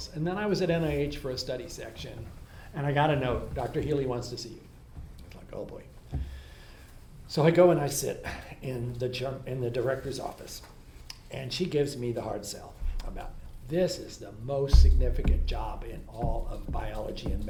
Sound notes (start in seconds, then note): none